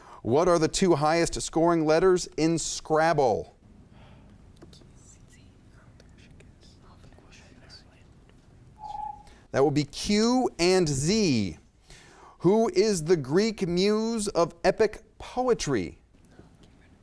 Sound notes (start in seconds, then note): 8.8 timer beeps